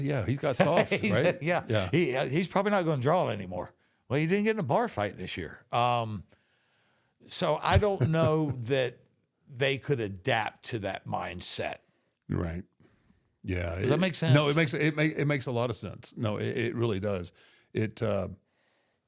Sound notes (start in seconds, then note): 0.1 Michael laughs